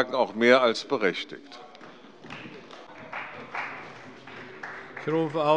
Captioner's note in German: Beifall bei Abgeordneten der CDU